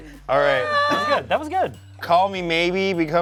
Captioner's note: groans